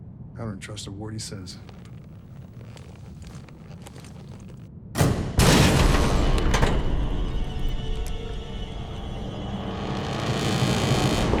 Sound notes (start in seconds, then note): 4.9 door bangs; 5.3 dramatic music; 7.9 suspenseful music